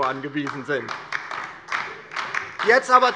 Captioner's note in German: Beifall DIE LINKE